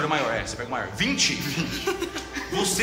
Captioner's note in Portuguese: risos